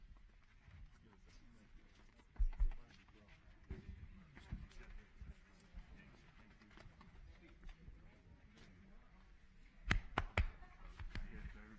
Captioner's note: applause